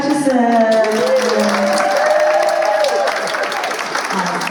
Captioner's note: cheers and applause